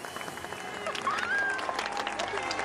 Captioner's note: audience cheering, applauding